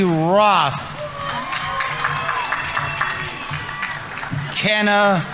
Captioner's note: audience applauding; audience members cheering